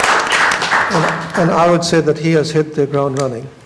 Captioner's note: applause